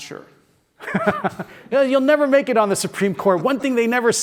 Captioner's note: laugh